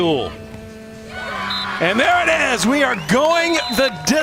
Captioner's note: players cheer